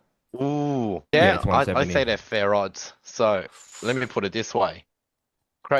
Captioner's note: laughs